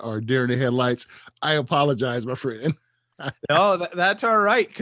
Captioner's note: laughs